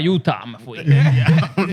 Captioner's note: speaking Spanish